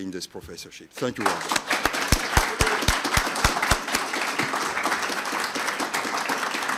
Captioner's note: audience applauding